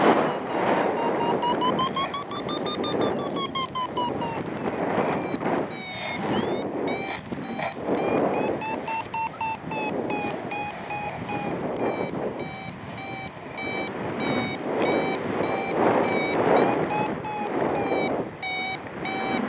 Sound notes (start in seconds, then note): 0.9 alarm accelerates; 3.7 alarm slows; 3.8 wind whooshing; 8.0 alarm accelerates; 11.5 alarm steadies; 11.5 strong wind gusts